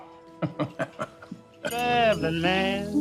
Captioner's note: Oscar chuckling